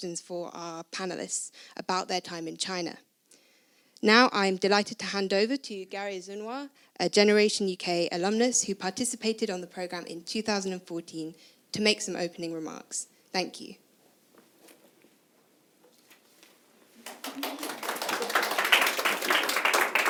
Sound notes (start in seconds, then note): 17.0 applause